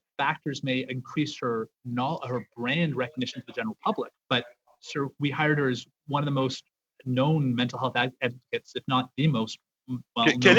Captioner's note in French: voix de l'interprète